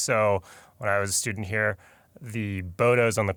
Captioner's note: none